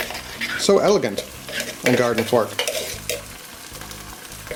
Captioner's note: scraping